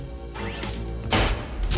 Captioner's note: machine whirring; gunshot